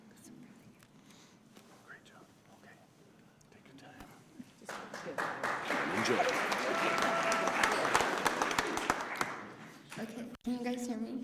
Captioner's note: applause